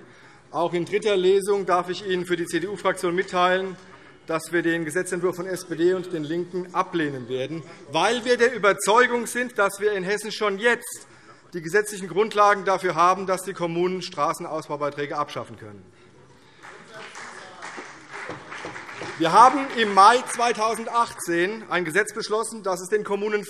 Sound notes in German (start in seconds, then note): 16.4 Beifall CDU